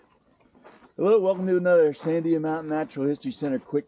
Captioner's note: gravel crunching underfoot